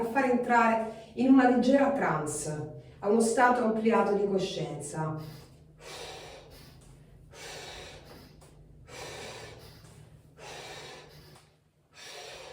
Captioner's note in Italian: sbuffare; sospiri